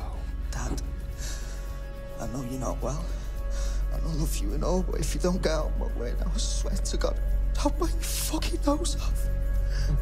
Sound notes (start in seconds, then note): none